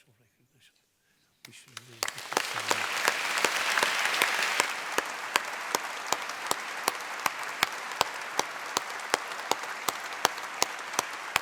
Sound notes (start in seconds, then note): 1.3 applause